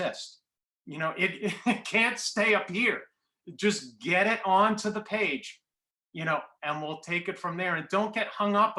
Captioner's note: laughter